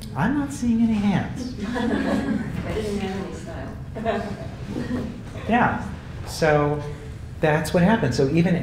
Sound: laugh

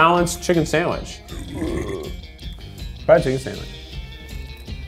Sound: burping

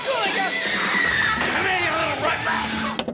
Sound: daughter screams

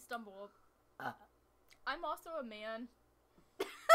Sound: burps; laughs

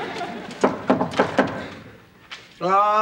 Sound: knock on door

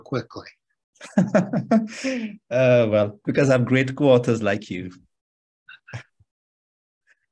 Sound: laughter

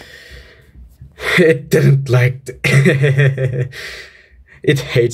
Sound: hehehehe

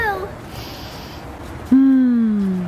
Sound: sniffing air

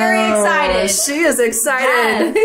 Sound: laughs

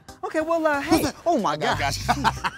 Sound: laughing

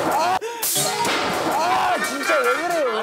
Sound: crash

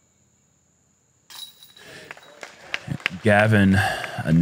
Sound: applause

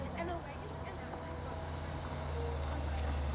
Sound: students chatter, sound of car approaching

